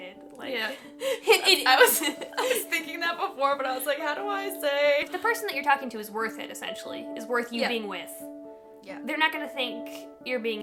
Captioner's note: both laughing